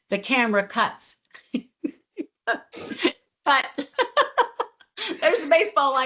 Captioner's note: laughs